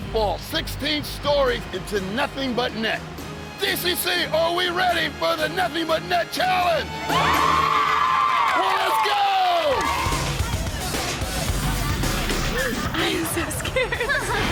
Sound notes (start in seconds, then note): 7.0 group cheers; 9.6 upbeat music